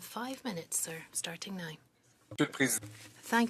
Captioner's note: speaking French